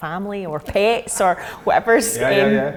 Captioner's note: laughing